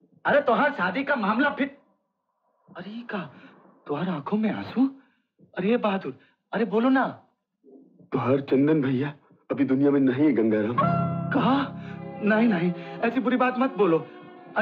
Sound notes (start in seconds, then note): none